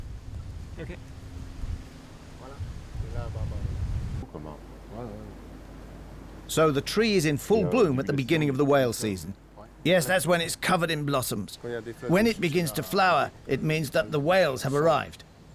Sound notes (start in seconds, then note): 2.1 speaking French